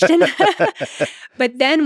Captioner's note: Lex and Jennifer laughing